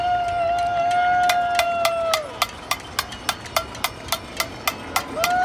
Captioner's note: pan clanging